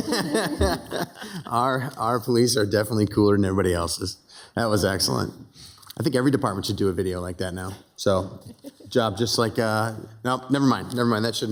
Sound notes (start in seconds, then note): 0.0 city council members laughing